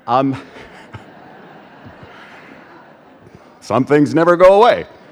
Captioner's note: audience laughs